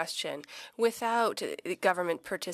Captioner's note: speaking French